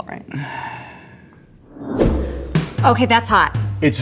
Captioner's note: sigh